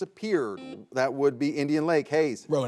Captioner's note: buzzer beeps